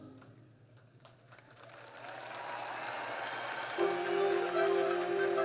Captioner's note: applause